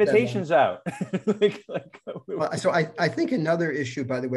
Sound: laughter

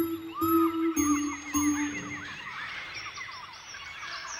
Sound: birds chirping

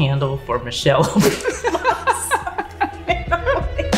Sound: laughter

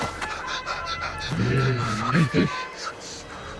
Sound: grunting

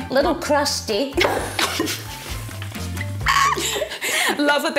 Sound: both laughing

